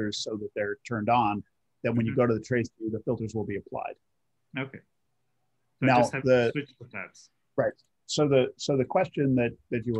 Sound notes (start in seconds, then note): 4.7 calm Voice